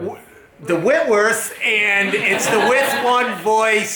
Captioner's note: crowd laughing